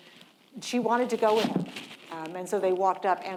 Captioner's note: object thudding